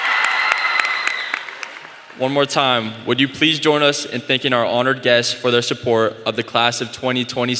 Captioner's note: applause